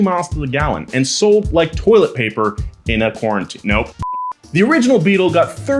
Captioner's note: beep